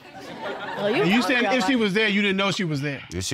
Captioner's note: audience laughing